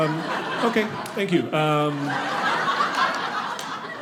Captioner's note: audience laughing